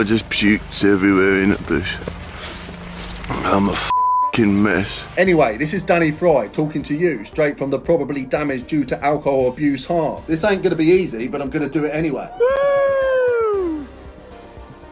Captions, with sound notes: I just puked everywhere in a bush. I'm a (beep) mess. Anyway, this is Danny Fried talking to you straight from the probably damaged due to alcohol abuse heart. This ain't gonna be easy, but I'm gonna do it anyway. (cheering)